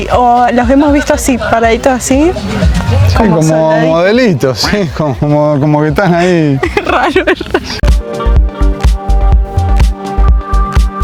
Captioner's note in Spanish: risas